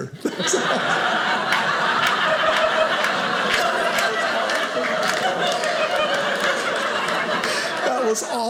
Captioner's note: audience laughing